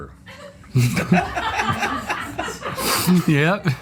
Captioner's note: laughter